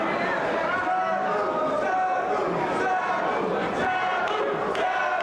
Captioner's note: spectators chanting "Sabu!"